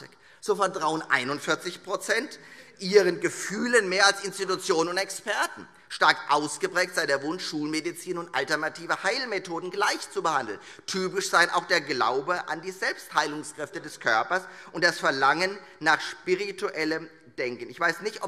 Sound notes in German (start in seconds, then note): none